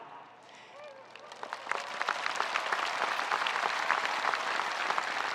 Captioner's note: spectators applauding